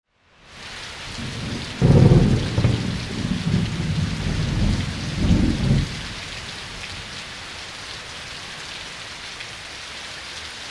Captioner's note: rain and thunder sounds